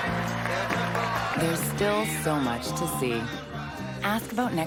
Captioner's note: applause